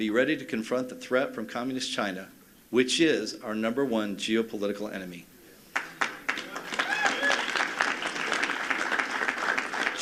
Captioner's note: applause